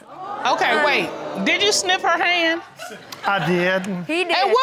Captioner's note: audience exclaiming